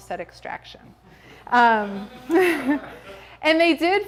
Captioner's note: audience chortles